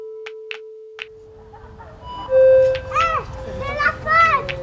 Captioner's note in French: rires et cris d'enfant